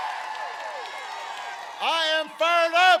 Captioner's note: applause